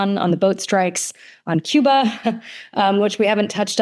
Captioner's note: chuckles